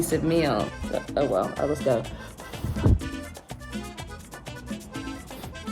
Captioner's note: blows